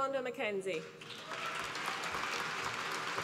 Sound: applause

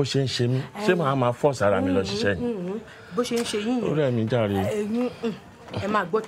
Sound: speaking foreign language

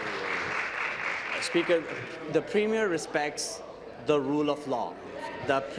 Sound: applause

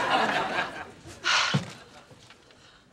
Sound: sigh

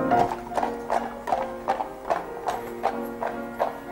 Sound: horse and carriage passing

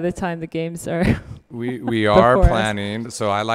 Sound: laughing

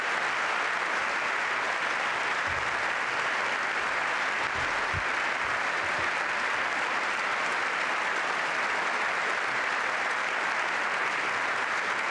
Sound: applause

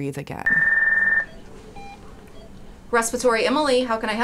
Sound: ringing

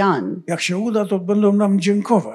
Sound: foreign language

